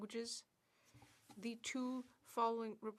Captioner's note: speaking French